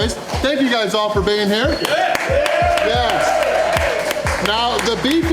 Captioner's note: crowd clapping and cheering